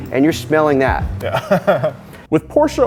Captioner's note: chuckles